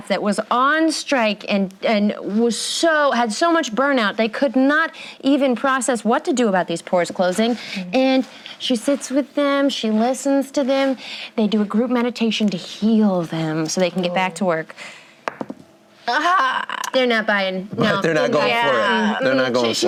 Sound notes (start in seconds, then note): 16.3 distressed moan